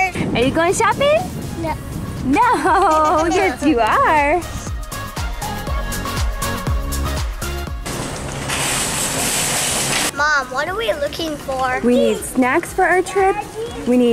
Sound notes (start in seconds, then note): 2.4 chuckles; 4.8 inspirational electronic music; 7.9 grocery cart wheels rattling